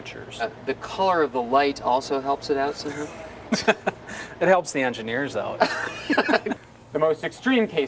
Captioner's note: haha